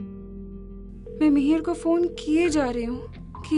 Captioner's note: phone ringing